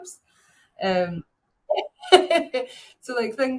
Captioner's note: chuckles